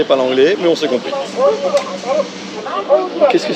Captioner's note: Japanese voice